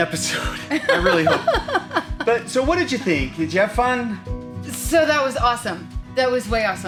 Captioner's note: laughs